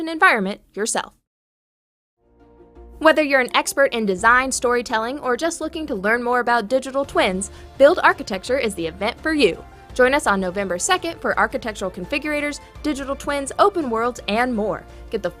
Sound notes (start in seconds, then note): none